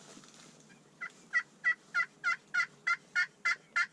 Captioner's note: turkey calls